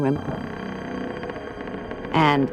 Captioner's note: creaking